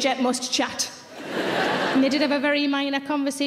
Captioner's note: audience laughing